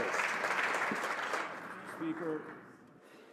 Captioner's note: some Applause